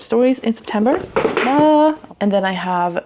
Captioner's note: books falling